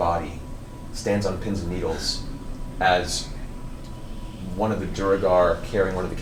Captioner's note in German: none